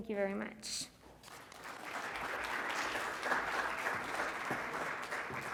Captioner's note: congregation clapping